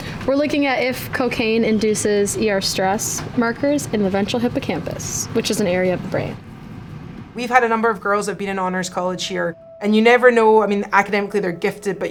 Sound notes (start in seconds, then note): none